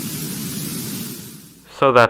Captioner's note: static